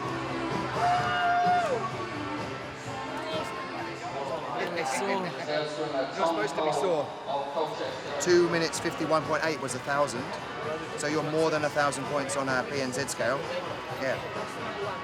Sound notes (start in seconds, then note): 0.4 cheering